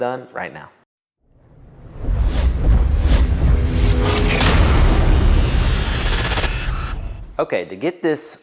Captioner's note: sound effect